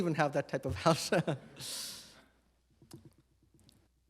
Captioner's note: chuckles